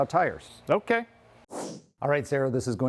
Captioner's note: whoosh sound